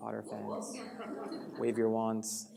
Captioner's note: audience responds